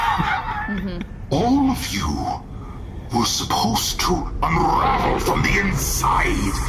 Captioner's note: crackle